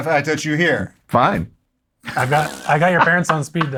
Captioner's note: sputters